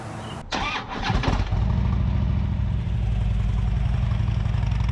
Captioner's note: motorcycle starting up